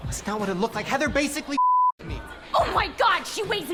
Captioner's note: beep